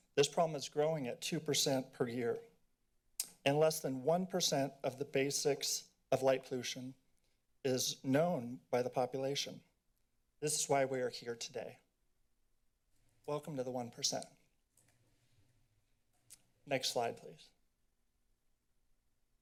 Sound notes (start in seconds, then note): none